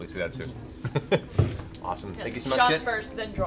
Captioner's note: laughs